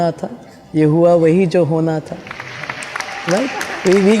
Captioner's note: claps